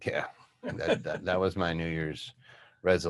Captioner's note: laughing